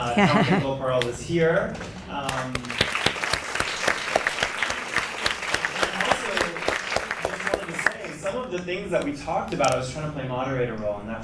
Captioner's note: applause